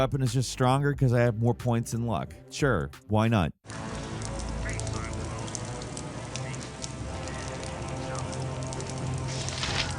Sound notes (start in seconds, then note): 3.6 fire crackling; 3.6 epic music